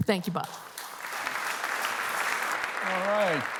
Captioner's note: applause